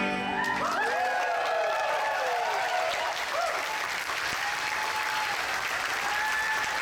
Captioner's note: audience cheers; audience applauds